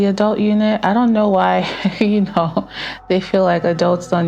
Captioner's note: chuckles